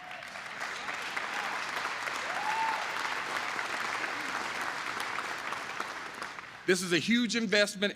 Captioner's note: applause